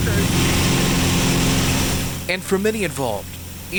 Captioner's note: plane engine whirring loudly